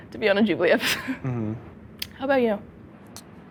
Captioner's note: hums